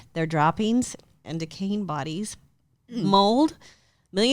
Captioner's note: both humming in disgust